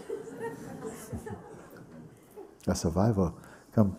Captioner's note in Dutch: gelach